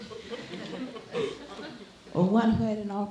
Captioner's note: laughing